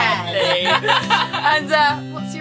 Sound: laughs

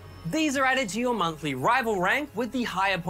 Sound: none

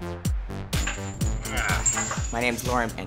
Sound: grunts

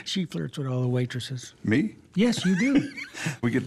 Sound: laughs

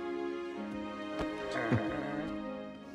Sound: both sigh; grunts; chuckles

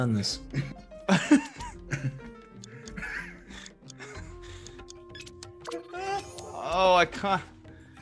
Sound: laugh

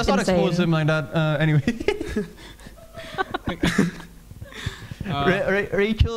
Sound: laughing

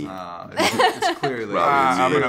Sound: laughter

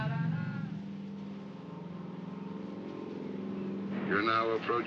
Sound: crew singing obnoxiously; aircraft hums in distance

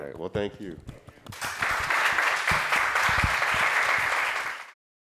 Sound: applause

